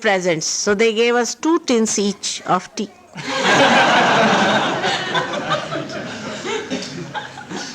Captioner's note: laughter